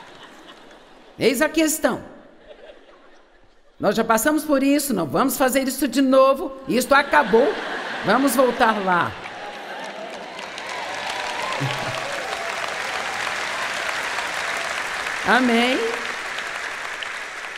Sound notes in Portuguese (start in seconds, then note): 9.0 audiência aplaude